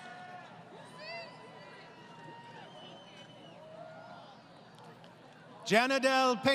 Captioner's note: crowd Cheering